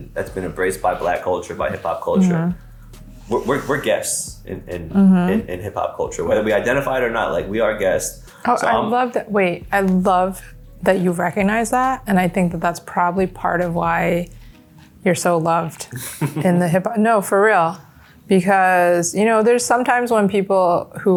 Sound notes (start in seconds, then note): 11.3 laughs; 15.8 laughs